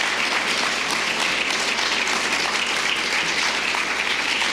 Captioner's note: applause